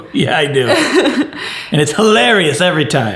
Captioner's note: laughs